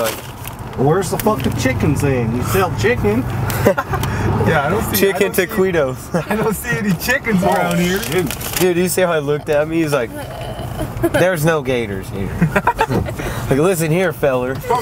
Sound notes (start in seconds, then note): 3.5 laughing